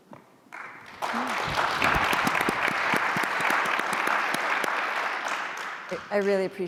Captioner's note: applause